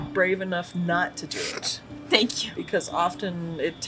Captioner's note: laughing